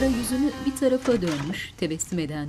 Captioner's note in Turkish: Kapı açılma sesi